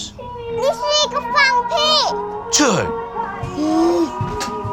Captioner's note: speaking foreign language